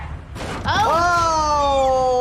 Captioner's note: car thuds